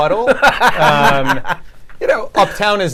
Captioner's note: laughs